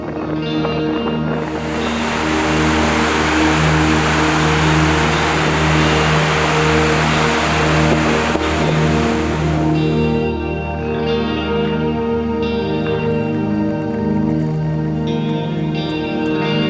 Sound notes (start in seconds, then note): 1.4 water falling